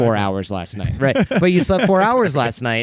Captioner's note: laughter